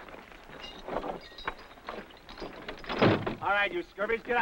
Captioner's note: chains Rattling